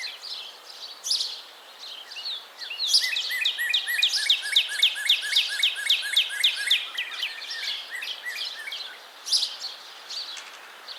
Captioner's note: Northern Cardinal duet with other birds in the background